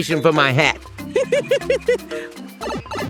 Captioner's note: Mario Laughing